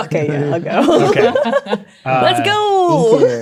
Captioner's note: players laughing